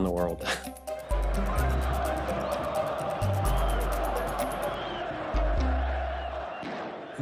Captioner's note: chuckling; audience cheering